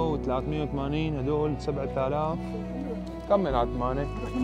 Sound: chatter

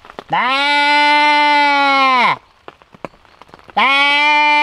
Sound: imitating sheep sounds

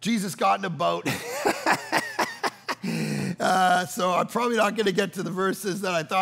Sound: laughing

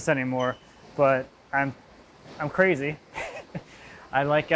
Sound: laughs

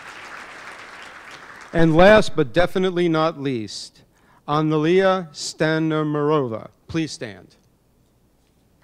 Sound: applause; applause

